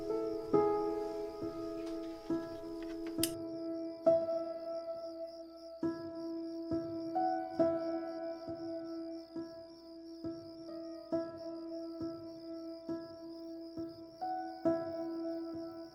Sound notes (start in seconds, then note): 0.2 gentle music; 2.8 light switch clicking; 4.7 gentle music